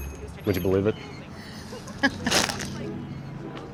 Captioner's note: laughing